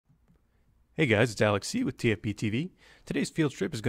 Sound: voiceover

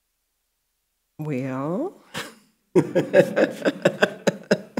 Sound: laughing

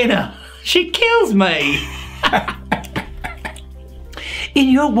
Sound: laughs

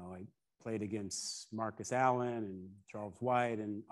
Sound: none

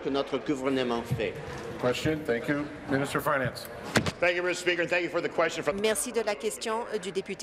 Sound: speaking in French

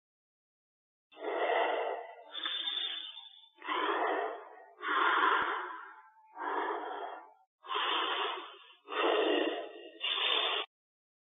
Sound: sound of creepy breathe

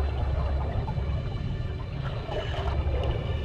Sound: ominous music; bubbles rising

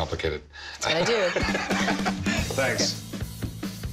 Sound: laughs

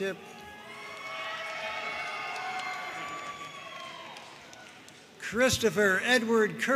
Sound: audience cheering and applauding

